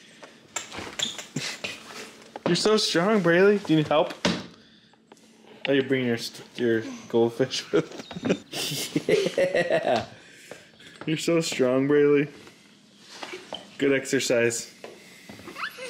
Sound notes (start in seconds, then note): 7.5 laughing; 15.4 giggling